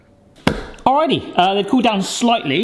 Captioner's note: slaps counter